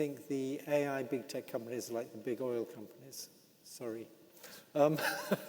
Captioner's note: laughs